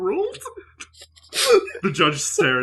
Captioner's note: laughter